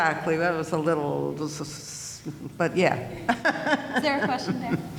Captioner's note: laughing